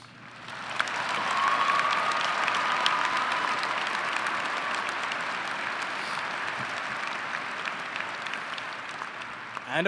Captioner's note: applause